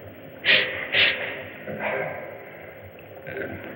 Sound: sniffs

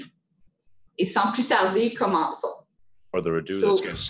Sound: speaking in French

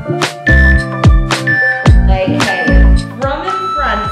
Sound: countdown timer beeping

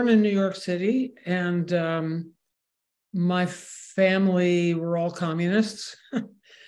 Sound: laughs

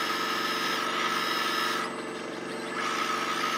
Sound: engine rumbles

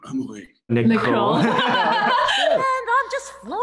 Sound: laughs

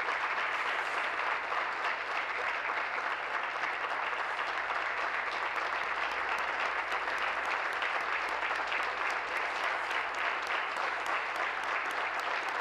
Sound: applause

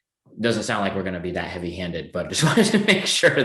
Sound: laughing

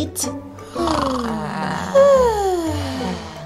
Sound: snoring

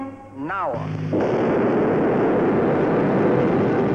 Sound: boom!

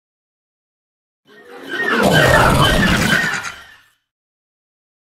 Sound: voice transformation

